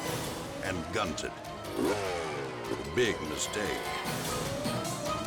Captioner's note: engine growls